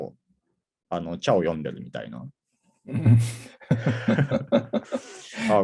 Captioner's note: laugh